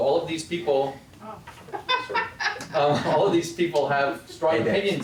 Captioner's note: laugh